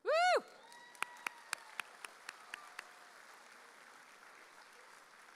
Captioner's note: audience cheering